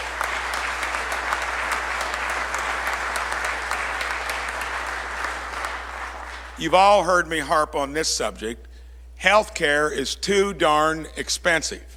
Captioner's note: applause